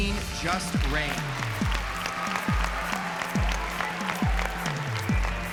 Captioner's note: cheering